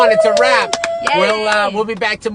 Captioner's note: cheering